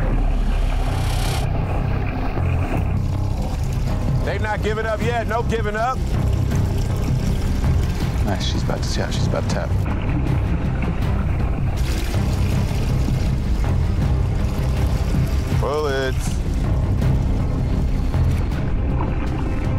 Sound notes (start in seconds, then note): 0.2 ominous music; 0.2 water splashing; 10.7 urgent music; 10.7 water splashing; 16.9 urgent music